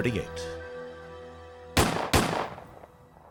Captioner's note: gunshots